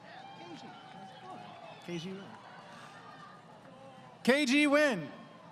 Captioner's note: crowd Cheering